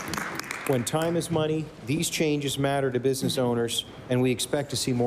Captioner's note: applause